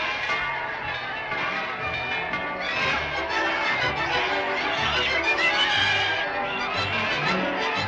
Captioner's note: جمهور يهتف; موسيقى مبهجة